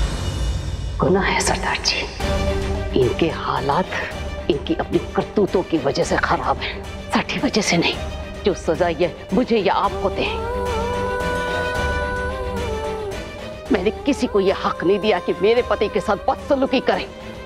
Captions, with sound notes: it's a sin, Sardarji! Their circumstances are bad because of their own actions. Not because of us, that they can punish me or you. [emotional vocalising] I didn't give anyone the right to ill-treat my husband.